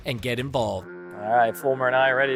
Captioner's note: boat horn